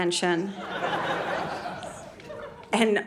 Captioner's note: audience laughing